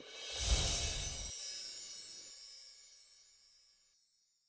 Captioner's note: bells chiming